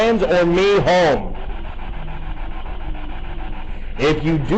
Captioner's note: static buzzing